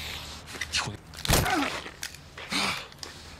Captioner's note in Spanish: Grito